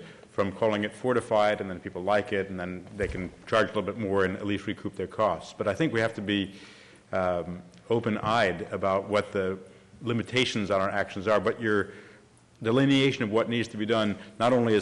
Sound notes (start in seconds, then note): none